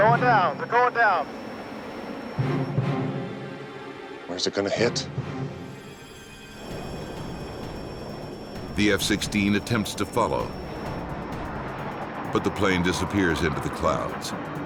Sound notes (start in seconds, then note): 8.3 plane droning; 9.2 voiceover